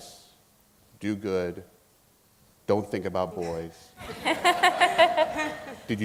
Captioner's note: laughing